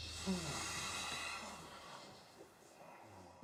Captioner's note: sighs